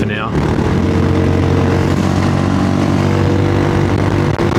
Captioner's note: engine noise